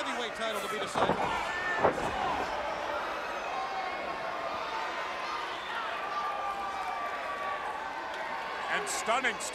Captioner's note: crowd chatter